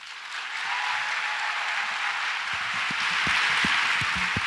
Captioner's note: audience applauds